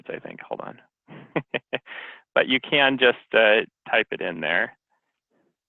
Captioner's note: laughs